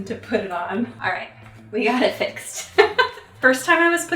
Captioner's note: chuckles